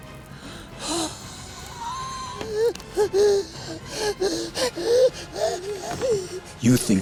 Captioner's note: gasping